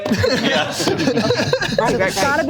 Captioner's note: group laughs